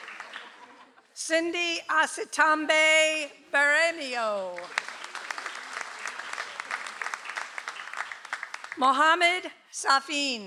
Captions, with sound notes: - Cindy Aseombe Barenio. (audience applauds) - Mohamed Safin.